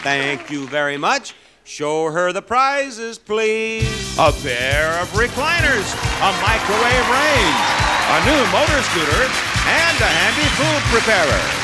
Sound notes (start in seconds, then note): 3.2 upbeat music; 5.5 audience cheers